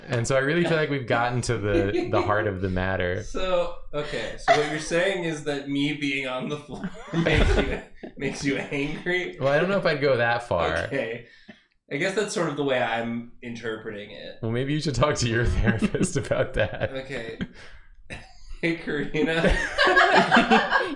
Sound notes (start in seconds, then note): 4.4 chortles; 5.9 laughs; 19.8 erupts into laughter